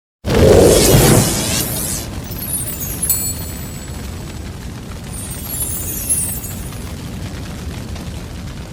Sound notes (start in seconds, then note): 0.2 wind whooshing; 1.5 electricity crackling; 2.1 chimes ringing